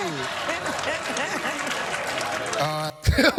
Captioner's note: crowd laughing and clapping; laughs